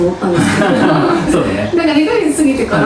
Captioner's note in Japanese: 笑い